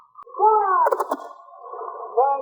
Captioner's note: gunshots